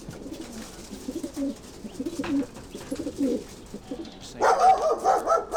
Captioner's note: pigeons cooing; dog barking